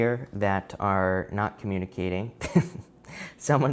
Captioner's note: chuckling